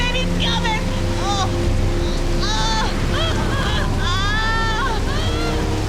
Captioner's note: groaning